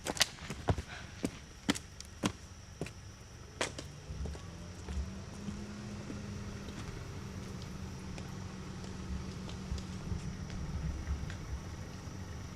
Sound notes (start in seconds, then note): 0.1 footsteps clop; 0.8 Angelina gasps